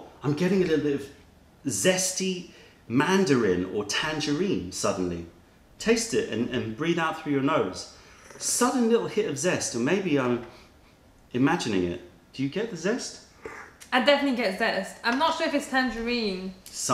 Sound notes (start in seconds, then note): 13.4 sips tea